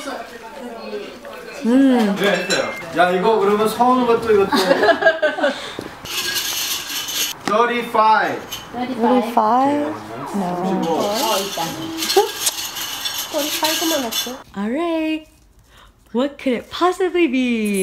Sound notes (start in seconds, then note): 2.9 speaking foreign language; 4.5 woman laughing